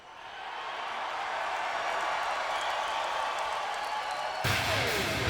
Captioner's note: crowd cheers; intense rock theme music